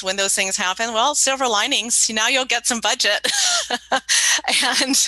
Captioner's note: laughs